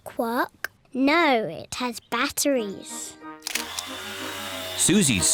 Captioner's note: whirring